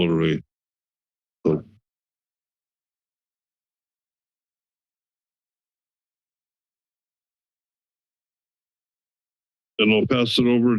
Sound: pause

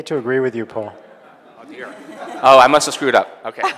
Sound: audience laughing

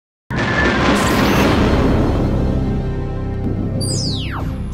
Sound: sound Effects

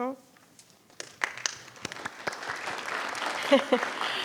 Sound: audience applauding; laughs

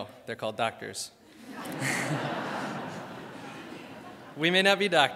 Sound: crowd laughs

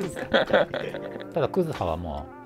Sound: laughing

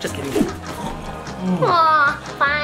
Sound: snoring

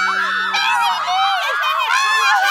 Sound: women cheering

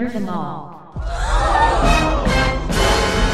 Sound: audience gasps!

